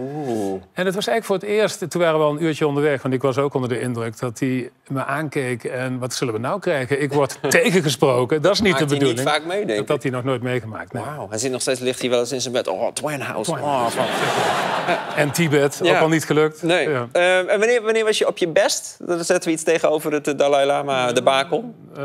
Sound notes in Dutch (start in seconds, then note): 13.8 gelach